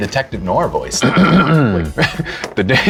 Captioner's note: clearing throat